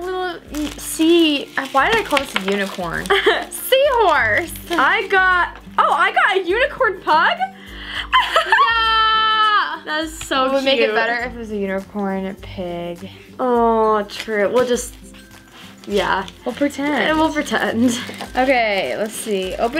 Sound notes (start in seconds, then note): 8.1 laughs